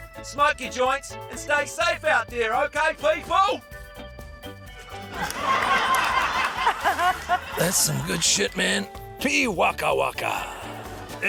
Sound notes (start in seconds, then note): 5.1 laughter